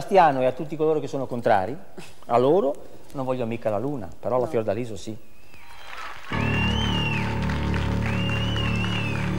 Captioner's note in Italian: Applauso